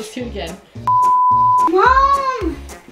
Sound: beep

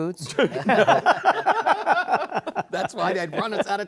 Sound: laughter

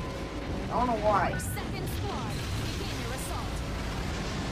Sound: gunfire and exploding

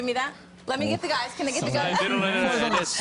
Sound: laughter

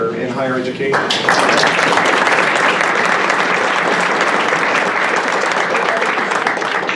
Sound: applause

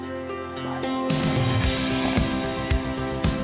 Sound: whispering

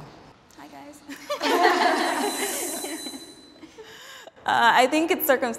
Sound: group laughing

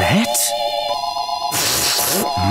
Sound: sniffing

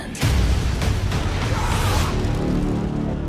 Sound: screaming

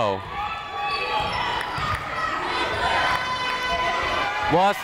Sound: people shouting in the crowd

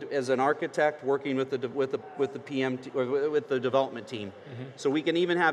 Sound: stutters

